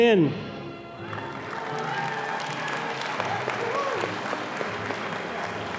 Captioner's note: audience applauding